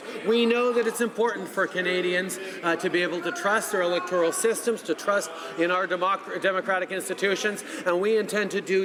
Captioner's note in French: voix de l'interprte